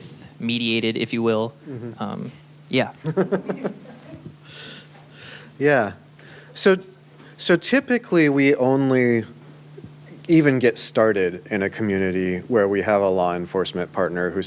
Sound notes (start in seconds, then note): 3.0 laughter